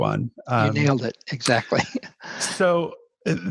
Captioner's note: laughs